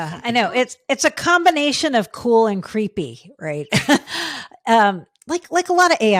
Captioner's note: laughing